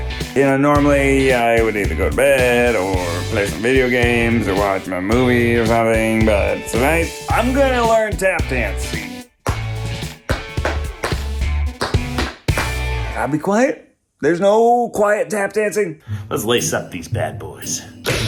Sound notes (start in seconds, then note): 9.3 tapping